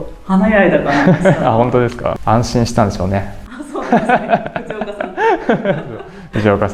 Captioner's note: laughs